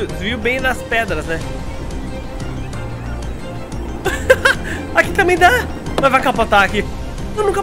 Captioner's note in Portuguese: risos